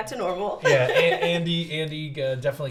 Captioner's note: laughs